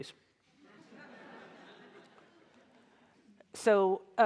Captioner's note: audience laughs